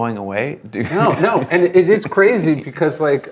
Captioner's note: laughs